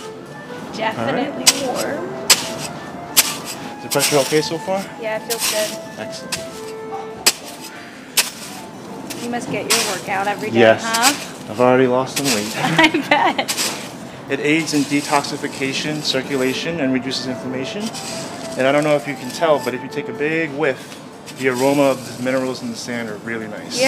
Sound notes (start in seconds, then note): 3.0 sand scraping; 8.1 sand scraping; 12.4 laughs